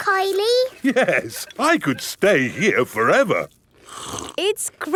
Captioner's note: slurps